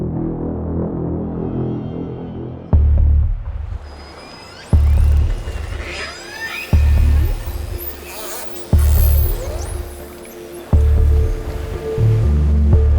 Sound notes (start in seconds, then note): 0.3 ominous music; 5.2 whales squealing